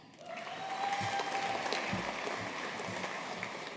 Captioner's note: audience applauding